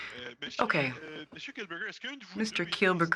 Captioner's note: speaking French